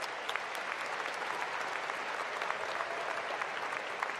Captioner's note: applause